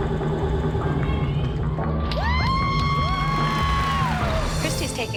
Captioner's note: cheering